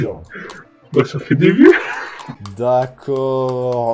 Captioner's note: laugh